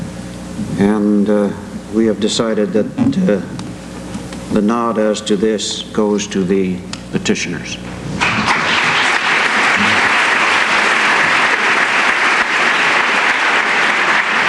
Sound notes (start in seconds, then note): 8.2 applause